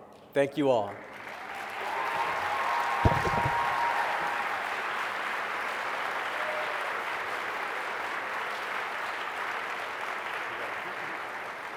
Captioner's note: applause